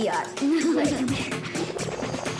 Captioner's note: they giggle